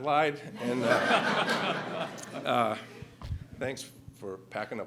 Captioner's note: laughter